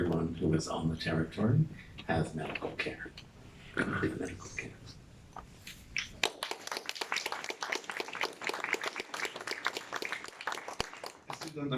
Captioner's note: applause